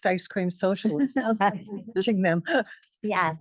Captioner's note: audio distorts